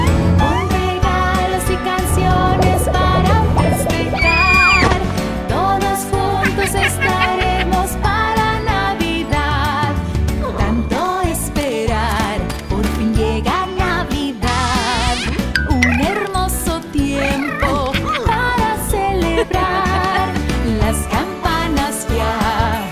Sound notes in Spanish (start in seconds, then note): 6.4 Risas; 14.5 Sonido de beso; 17.1 Risas